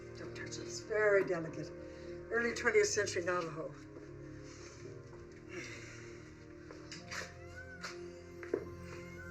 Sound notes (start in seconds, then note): 5.4 exhales deeply